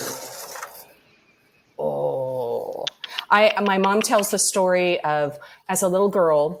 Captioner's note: clicks tongue